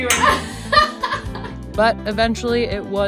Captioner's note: laughing